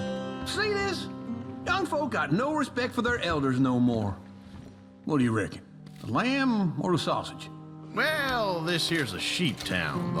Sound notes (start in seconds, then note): none